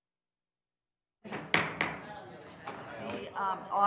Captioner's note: gavel banging